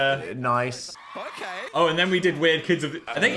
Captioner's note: crowd cheering